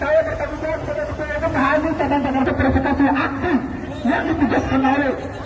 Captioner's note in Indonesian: tertawa